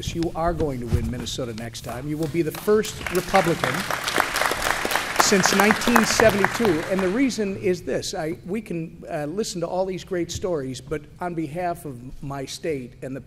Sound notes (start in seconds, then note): 2.5 applause